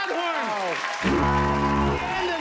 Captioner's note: fog horn blares